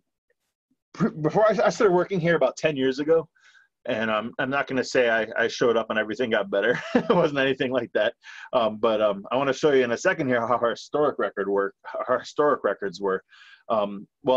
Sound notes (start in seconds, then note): 6.7 laughs